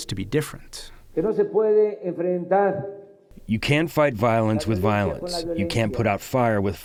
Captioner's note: through translator